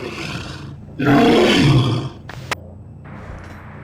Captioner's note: growling intensifies; static